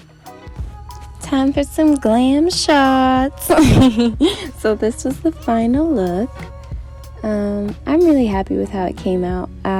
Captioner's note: giggles